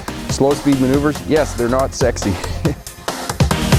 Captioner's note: laughs